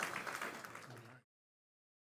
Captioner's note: applause